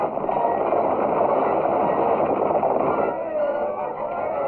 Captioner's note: stagecoaches rattling